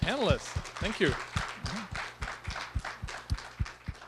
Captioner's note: applause